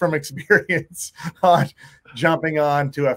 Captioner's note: laughing